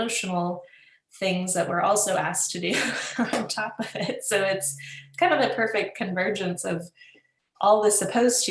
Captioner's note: laughs